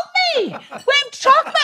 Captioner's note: laughs